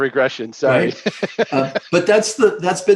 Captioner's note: laughs